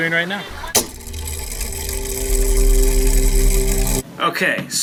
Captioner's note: mechanism whirring